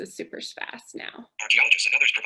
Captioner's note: synthesized speech